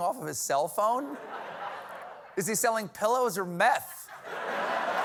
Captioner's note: laughter